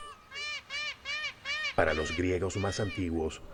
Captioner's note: graznidos